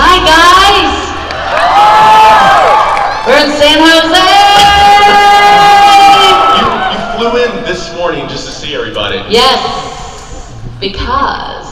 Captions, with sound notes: - Oh! Hi guys. (crowd cheers) (shouting) We're in San Jose! - You flew in this morning just to see everybody. - Yes. Because I'm crazy.